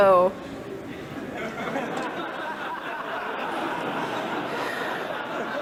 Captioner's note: people laughing and cheering